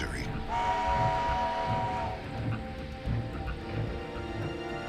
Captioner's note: train honks